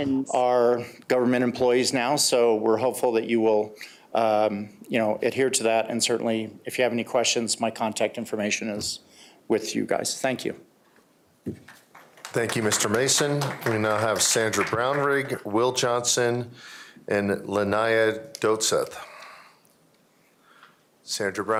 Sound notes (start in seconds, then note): 14.1 applause